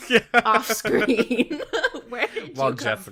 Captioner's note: laughs